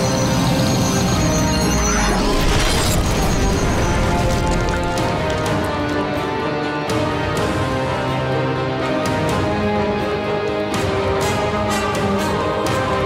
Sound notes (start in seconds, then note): 2.0 creature exploding